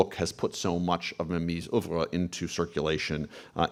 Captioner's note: speaks in foreign language